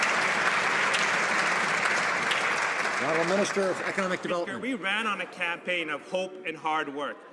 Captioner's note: some Applause